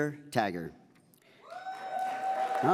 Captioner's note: audience applauds